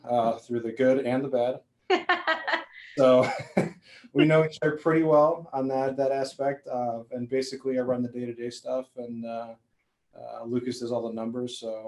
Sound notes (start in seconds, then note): 2.9 all laughing